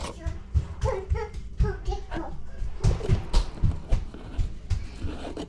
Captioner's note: toddler gibberish